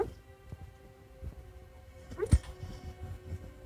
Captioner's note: Roxy the dog dreaming barking